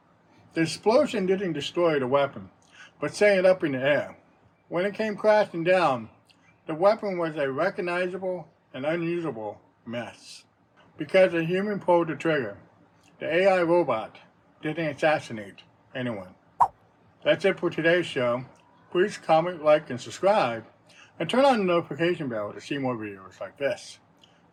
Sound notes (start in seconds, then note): 16.6 swipe sound